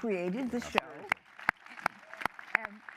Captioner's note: applause